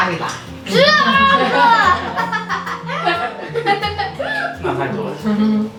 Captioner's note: joking hahahaha